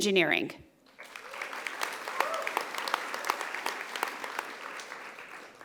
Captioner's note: audience applauding